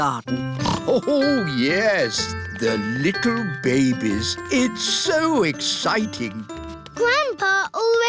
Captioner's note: snorts